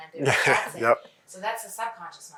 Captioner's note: laughs